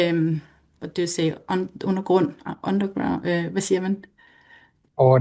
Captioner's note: foreign language